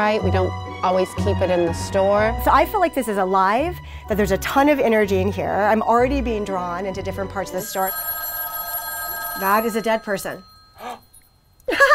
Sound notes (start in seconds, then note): 7.6 phone ringing; 10.7 gasps; 11.7 laughing